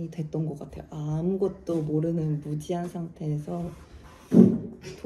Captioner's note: footsteps